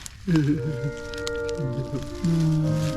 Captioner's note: strawberry whimpers